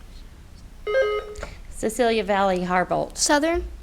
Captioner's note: buzzer beeps